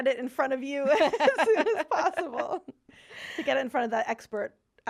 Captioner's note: laughing